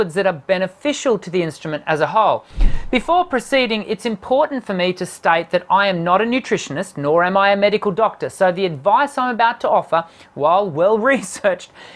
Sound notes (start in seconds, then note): 2.5 wooshing